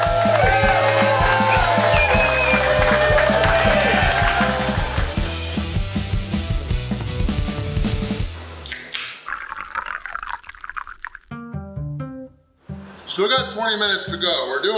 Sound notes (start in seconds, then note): 0.0 crowd cheering and clapping; 8.6 opening can and pouring drink